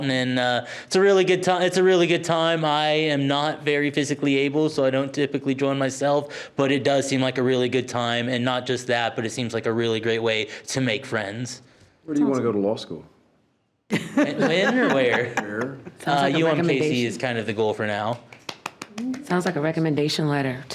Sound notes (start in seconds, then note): 13.9 board laughs; 18.0 board member applauds